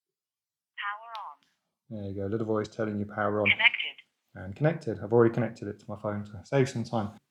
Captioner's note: voice from speaker says “power on - connected”